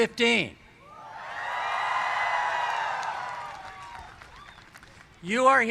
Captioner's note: cheers